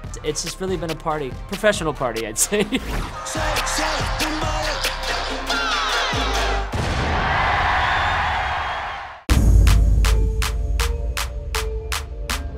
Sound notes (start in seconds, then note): 2.4 laughs; 3.9 hip hop music; 7.4 crowd cheers; 9.3 hip hop music